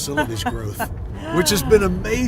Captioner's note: laughing